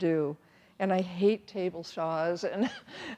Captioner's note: chuckles